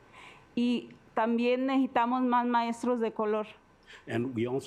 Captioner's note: speaking Spanish